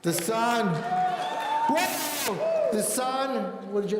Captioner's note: audience cheering